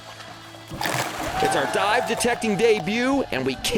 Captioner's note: water sloshing; cheering